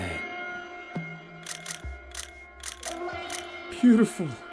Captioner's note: shutter clicking